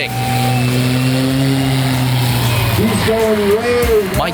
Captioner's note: engine roars